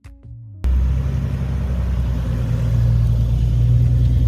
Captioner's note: car engine rumbles